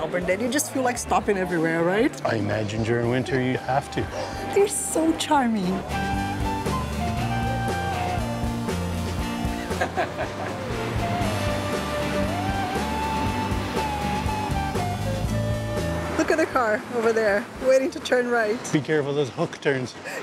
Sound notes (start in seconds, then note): 9.6 laughs